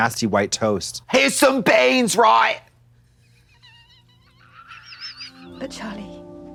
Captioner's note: Katya hee-hees